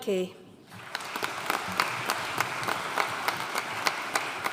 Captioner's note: audience applauding